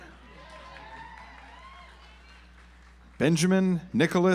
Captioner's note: audience applauds